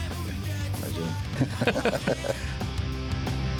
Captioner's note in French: rires